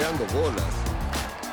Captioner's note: bat cracks, crowd cheers